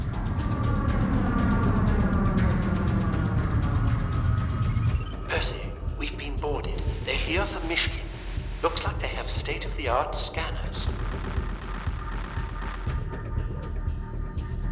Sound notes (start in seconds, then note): 0.0 spacecraft whirring; 11.5 intense music